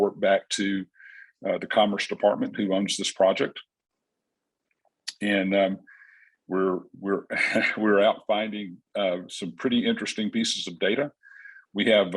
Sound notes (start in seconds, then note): 7.3 chuckles